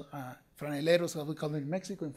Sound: speaking foreign language

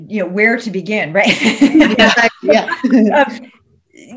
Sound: laughs

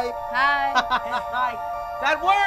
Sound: boy laughing

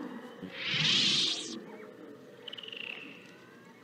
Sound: Yoda disignites his Lightsaber

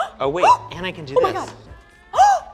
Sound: gasps

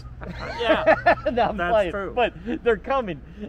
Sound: both laughing

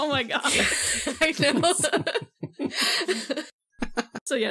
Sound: laughs

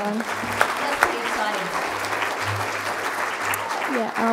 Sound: crowd applauding

